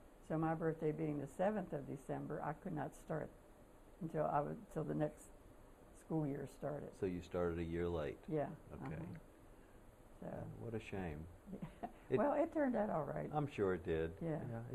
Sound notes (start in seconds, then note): 11.5 laughter